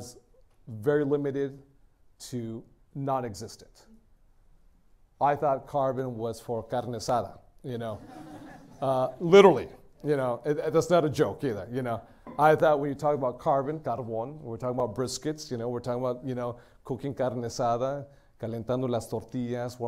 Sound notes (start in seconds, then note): 8.0 laughter; 13.9 spanish; 19.1 spanish